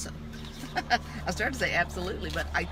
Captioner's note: laughs